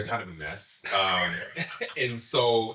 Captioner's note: all laughing